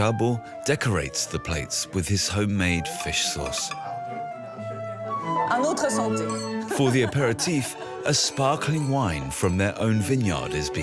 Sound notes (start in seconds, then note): 5.6 speaking in foreign language